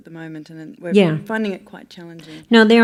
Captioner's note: voiceover